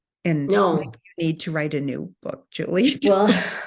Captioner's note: laughs